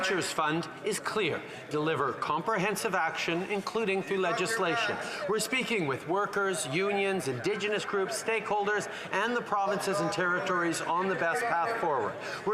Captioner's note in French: voix de l'interprète